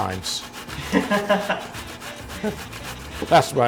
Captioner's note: laughing